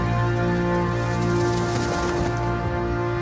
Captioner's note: fluttering